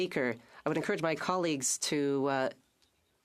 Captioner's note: speaking French